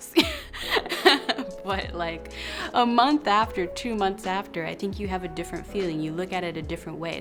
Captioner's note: laughs